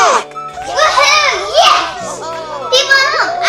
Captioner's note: cheering